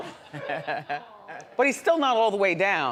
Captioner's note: chuckles